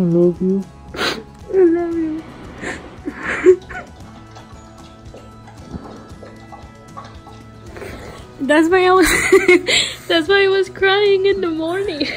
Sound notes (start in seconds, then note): 2.4 sobbing